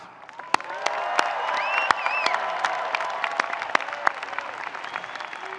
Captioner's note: audience cheering and applauding